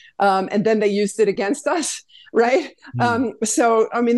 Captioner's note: laughs